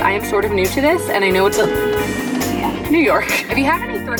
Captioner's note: horn honking